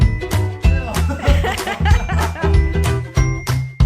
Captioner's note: they both laugh